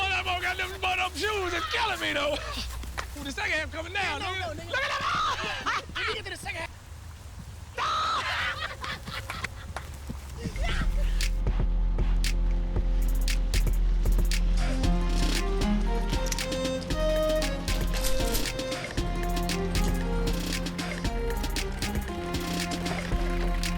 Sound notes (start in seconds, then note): 2.9 overlapping chatter; 7.8 all laughing